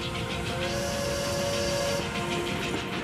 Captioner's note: <i> steam whistle blowing</i>